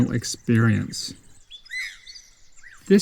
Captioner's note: birds chirping